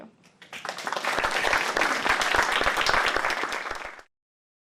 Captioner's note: applause